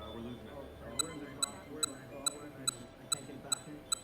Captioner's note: machine beeps